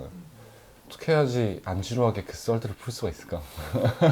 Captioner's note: laughs